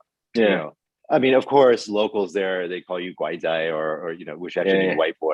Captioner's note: non-english